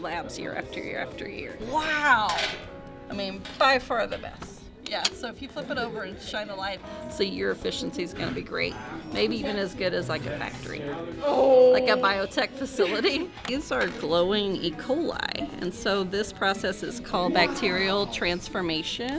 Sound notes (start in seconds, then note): 12.6 chuckles